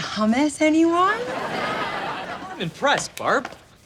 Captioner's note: laughs